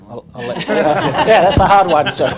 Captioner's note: laughing